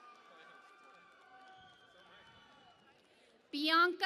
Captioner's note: cheering and Applause